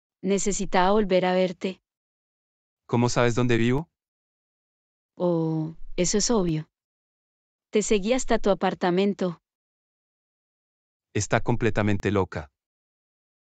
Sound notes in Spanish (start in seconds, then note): none